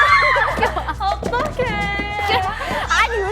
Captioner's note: laughing